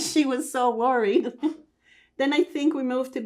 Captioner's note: laughing